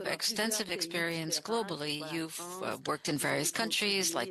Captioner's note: speaking in French